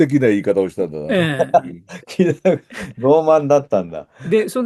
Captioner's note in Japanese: 笑い